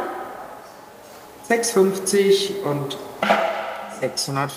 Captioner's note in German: Dumpfer Schlag